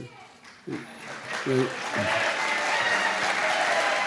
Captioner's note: applause